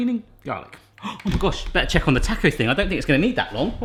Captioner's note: gasps